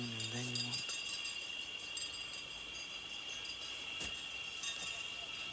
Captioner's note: distant clattering